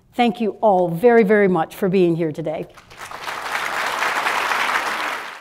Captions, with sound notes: Thank you all very very much for being here today. (applause)